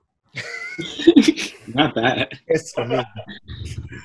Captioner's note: laughing